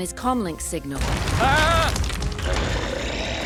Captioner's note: ghoul yells